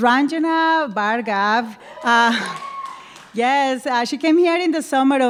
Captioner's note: cheering